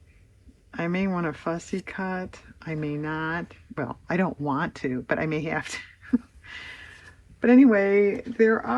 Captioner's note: laughs